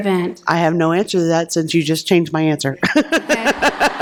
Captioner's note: laughter